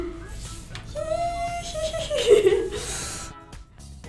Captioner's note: sneaky laughs